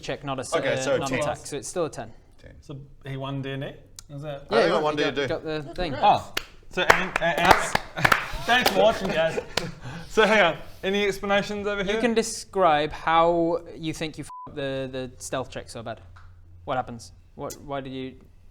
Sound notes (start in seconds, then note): 5.7 pathetic applause